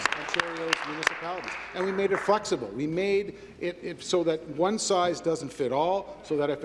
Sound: applause

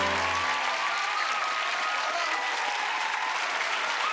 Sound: cheering

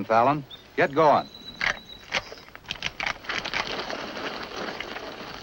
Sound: gun cocking

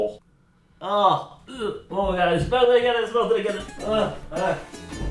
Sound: retches

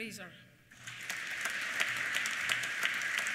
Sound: applause

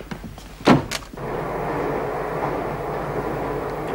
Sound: train rumbling

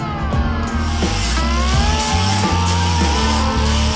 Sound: buzzing

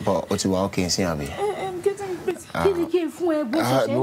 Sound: women speaking in foreign language; speaking foreign language

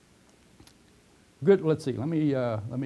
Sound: pause

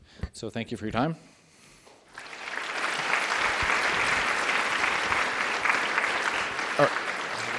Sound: applause

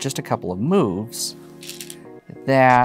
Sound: stones rattling

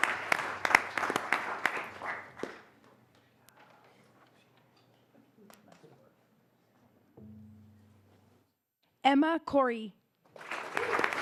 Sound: applause

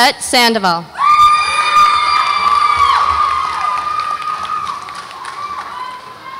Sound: audience applauds and cheers

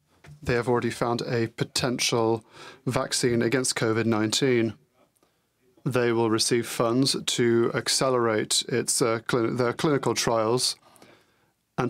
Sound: speaking french

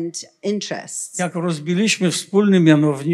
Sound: foreign language

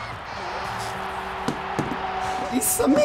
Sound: horn blares

